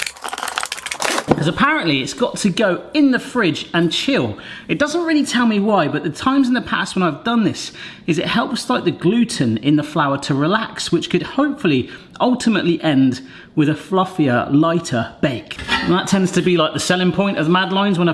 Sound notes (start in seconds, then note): none